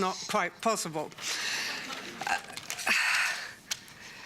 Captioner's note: laughter